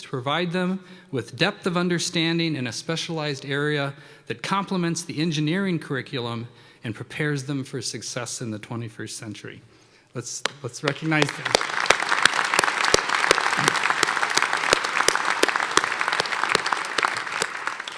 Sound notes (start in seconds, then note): 10.8 applause